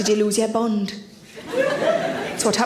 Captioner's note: audience laughs